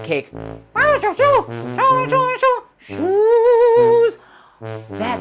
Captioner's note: speaking elvish